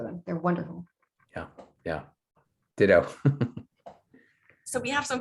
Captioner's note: chuckles